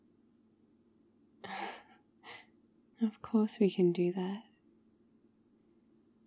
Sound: laughs

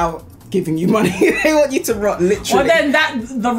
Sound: laughs

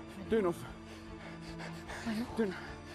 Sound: panting

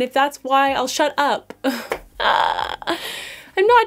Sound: laughing/Gasping???

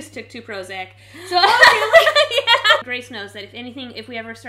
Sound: laughing

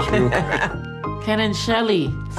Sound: laughing

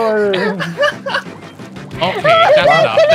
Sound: laughing

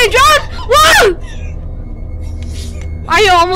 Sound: laughing

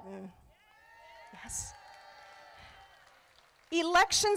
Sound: crowd applauding

